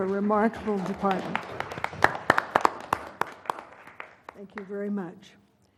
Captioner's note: applause